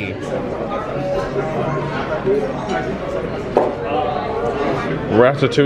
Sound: patrons murmuring

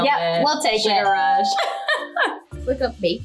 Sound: laughs; bell rings

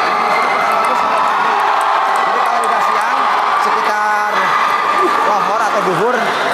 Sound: applause

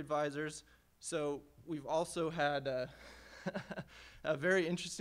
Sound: laughing

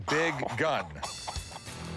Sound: laughs

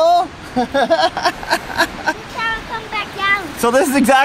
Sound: laughing

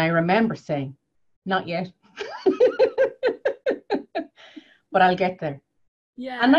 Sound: laughs

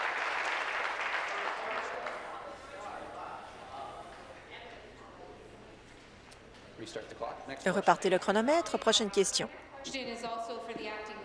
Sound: applause; continued applause

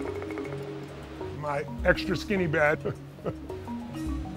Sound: laughs

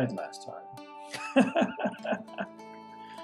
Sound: laughs

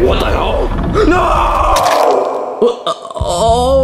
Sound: blood squirting

